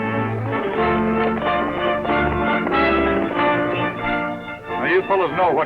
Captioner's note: hooves clatter